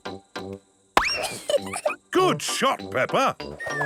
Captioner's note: giggles